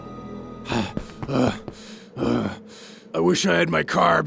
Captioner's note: panting heavily